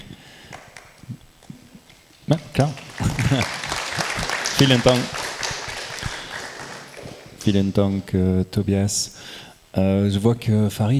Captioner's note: applause